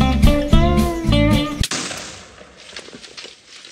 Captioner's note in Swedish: Bomm!